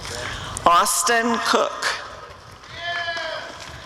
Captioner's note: applause and cheering